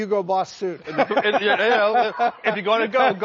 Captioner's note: laughter